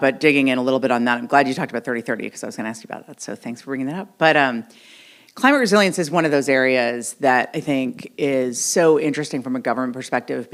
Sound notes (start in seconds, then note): none